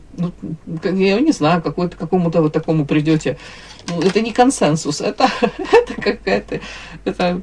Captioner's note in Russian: смех